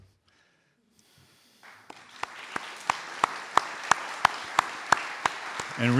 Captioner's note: audience Applause